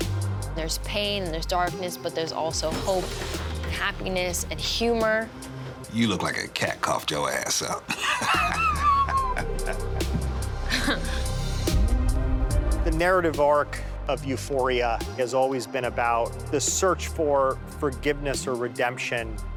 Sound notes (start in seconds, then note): 7.6 laughs; 10.2 chuckles